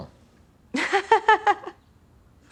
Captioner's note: laughs